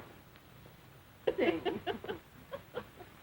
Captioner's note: chuckling